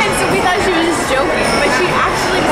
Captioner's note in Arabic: يضحك